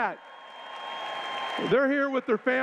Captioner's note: cheers